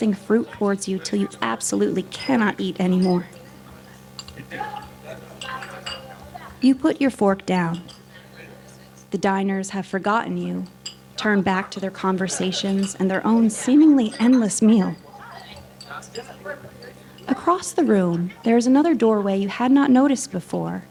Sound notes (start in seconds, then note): 3.3 background chattering; 3.3 silverware clanking; 12.5 laughter; 14.9 background chattering; 14.9 silverware clanking